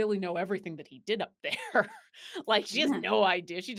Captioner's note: laughs